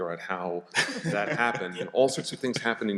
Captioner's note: laughter